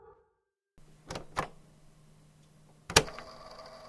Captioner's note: click